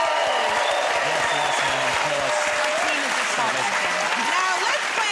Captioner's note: cheers and applause